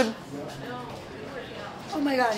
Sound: speaks in foreign language

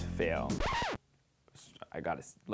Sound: record scratches

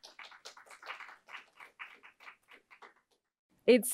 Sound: applause

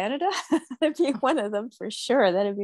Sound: chuckling

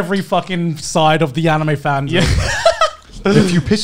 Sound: laughs

